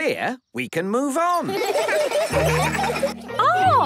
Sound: laughter

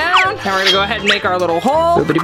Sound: slide whistles

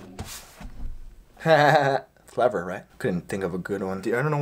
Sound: fake laugh

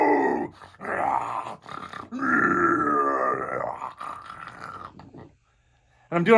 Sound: guttural monster sounds

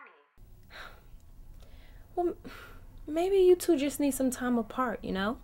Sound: scoffs

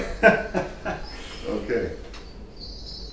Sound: laughing

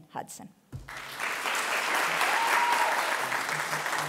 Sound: cheering, applause

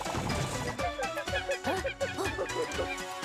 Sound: monkey cries

